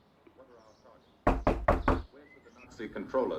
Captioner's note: Trixie knocking